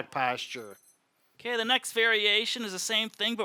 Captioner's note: alarm ringing